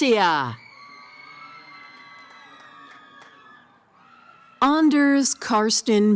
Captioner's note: cheering